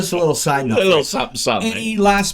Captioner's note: laughing